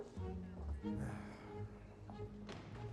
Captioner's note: sighs